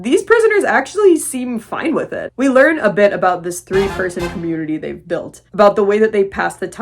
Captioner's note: funky sound effect